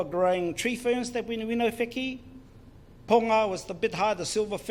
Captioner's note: foreign Language